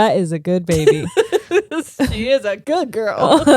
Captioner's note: laughing